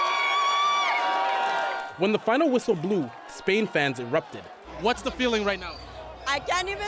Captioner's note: cheers and Applause